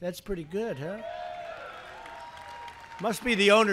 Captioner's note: applause